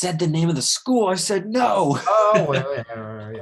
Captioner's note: laughs